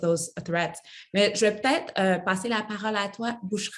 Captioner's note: speaks French